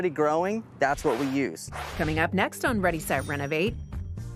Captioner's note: swooshing